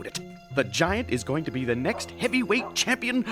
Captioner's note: laughing